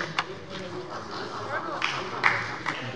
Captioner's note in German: Beifall bei der SPD